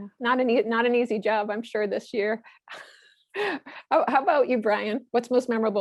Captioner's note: laugh